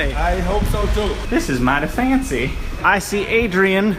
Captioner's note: southern accent